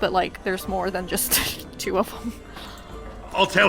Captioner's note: laughs